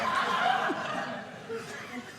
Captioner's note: audience laughing